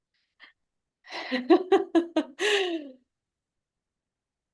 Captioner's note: laughs